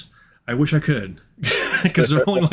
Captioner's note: chuckling